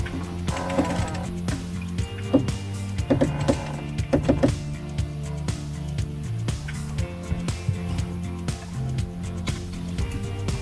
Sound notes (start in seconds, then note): 0.8 winch pulley block rattling